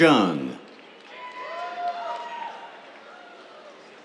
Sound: cheers

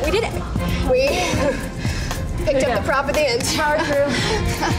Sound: laughs

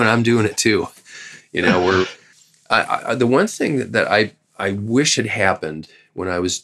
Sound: laughter

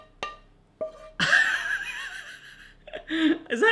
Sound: laughs

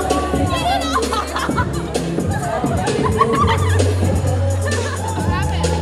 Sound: girls laughing and giggling

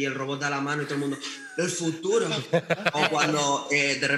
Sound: laughs

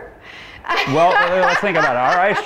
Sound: laughing

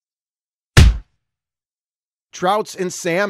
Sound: punch sound

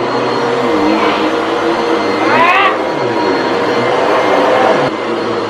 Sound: vacuum running

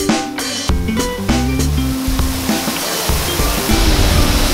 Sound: rushing water

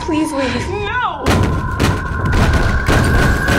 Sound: banging on door

